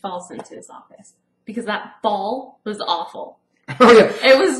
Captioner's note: laughs